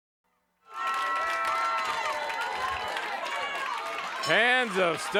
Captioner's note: audience cheers